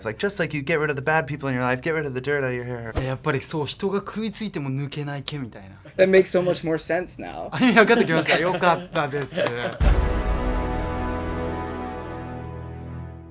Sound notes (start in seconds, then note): 3.0 speaking Japanese; 9.8 dramatic chord